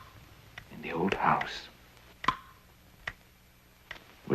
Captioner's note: clock ticking